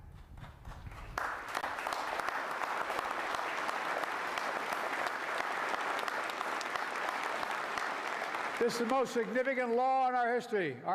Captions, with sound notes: (Applause.) This is the most significant law in our history --